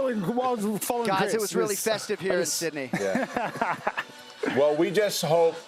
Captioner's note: laughter